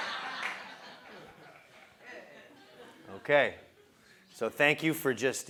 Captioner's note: laugh